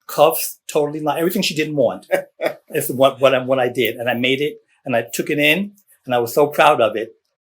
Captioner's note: laughter